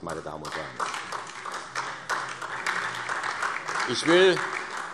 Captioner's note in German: Vereinzelter Beifall SPD